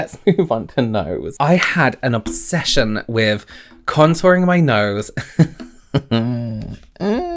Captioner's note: chuckles